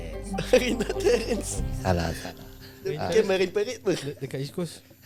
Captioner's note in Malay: ketawa